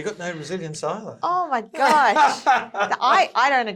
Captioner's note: laughign